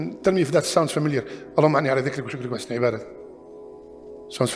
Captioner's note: Arabic